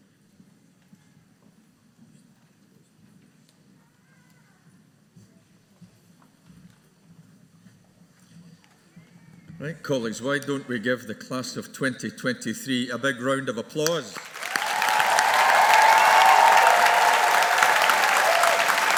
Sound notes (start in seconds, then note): 14.1 audience applauding